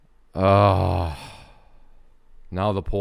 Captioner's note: groans and sighs